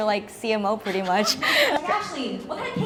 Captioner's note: laughs